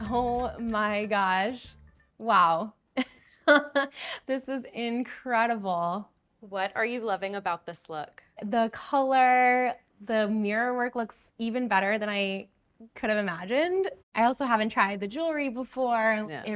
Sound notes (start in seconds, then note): 3.0 chuckling